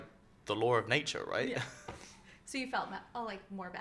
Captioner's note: laughs